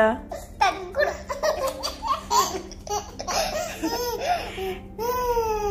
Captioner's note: laughing